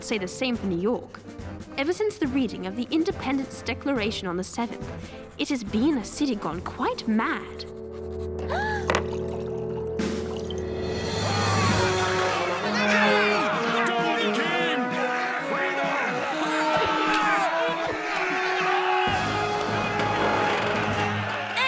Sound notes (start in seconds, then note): 10.1 gasps; 12.3 angry shouting; 17.6 yelling